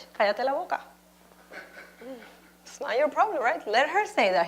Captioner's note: speaking Spanish